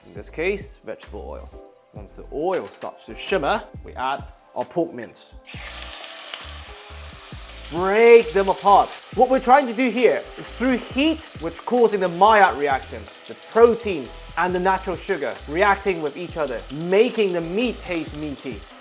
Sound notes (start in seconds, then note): 5.4 sizzling sound